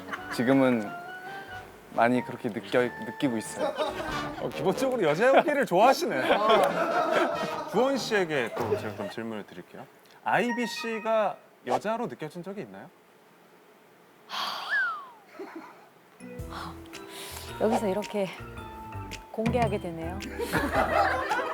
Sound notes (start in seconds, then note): 14.3 sigh